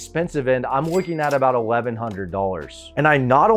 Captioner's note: cash register dings